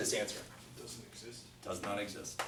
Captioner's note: voiceover